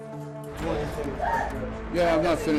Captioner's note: indistinct chatter